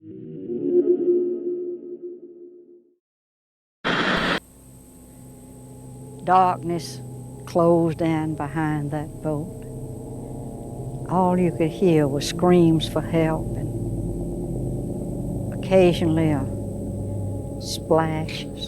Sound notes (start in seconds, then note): 0.0 calm music; 4.0 static crackling